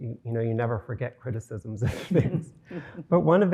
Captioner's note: chuckling